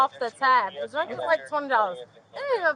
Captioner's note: radio chatter